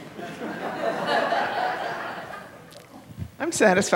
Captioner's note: laughter